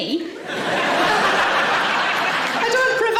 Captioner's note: audience laughing